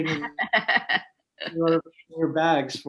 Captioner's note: laughs